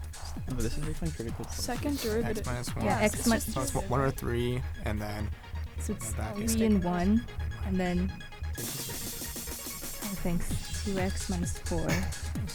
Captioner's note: whispering